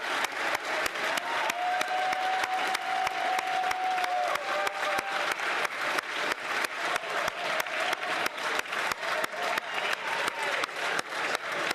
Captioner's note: cheering & Applause